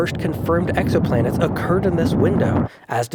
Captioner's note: rocket rumbling